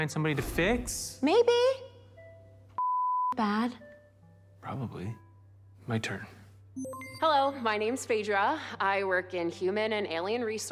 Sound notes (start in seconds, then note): 6.8 system beeps